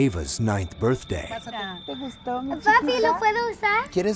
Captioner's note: conversing in spanish